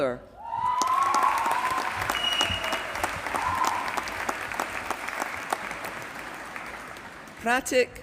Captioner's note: applause